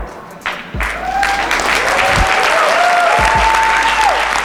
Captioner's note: audience applause